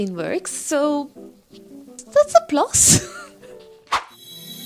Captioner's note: laughs